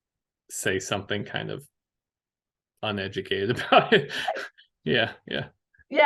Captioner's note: laughs